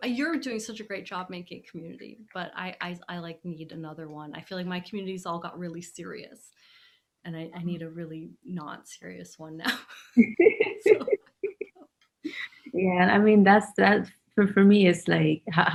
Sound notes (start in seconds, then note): 10.2 laughing